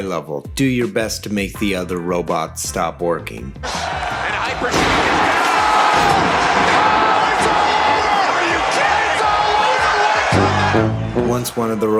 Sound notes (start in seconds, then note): 3.6 cheering intensifies; 4.3 crowd cheering